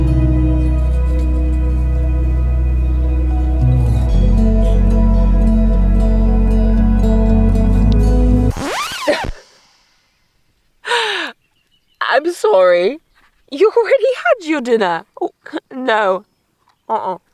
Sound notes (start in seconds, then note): 8.5 record scratch; 10.9 laughs